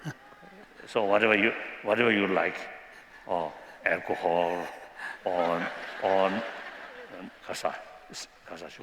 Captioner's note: non-english